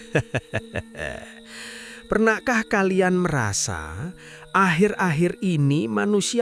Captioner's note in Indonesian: tertawa